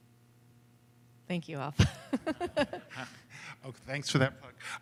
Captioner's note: laughter